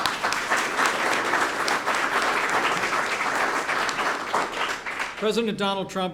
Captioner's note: applause